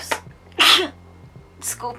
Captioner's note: achoo